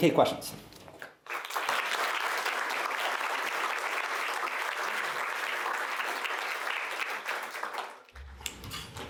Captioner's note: applause